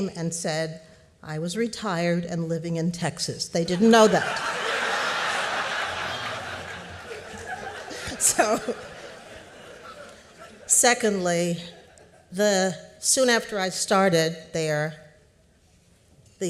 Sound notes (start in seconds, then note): 3.6 laughter